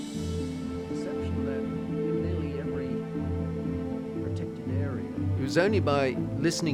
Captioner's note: people chattering